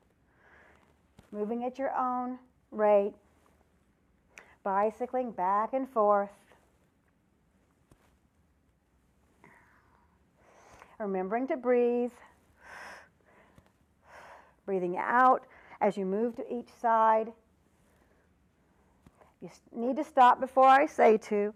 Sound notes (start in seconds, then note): 12.5 breath sound